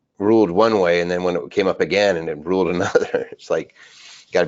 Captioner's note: laughs